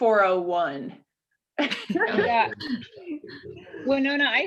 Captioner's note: laughing